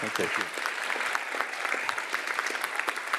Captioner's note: applause